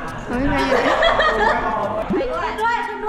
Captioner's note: laughs